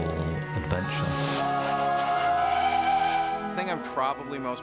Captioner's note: whistling